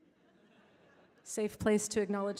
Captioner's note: audience laughing